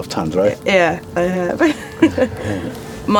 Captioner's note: laughs